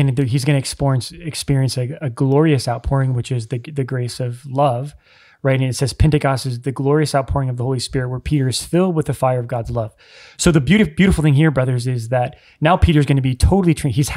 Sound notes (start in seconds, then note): none